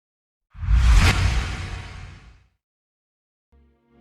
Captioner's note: dramatic swooshing; gentle music